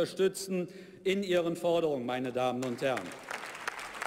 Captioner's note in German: Beifall bei der SPD